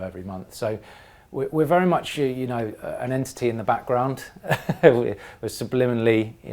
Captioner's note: laugh